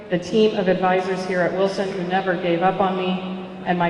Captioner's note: none